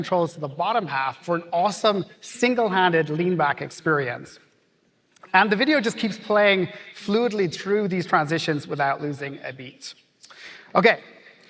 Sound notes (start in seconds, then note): none